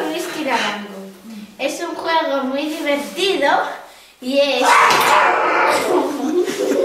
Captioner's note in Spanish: grito